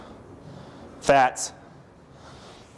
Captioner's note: breathing heavily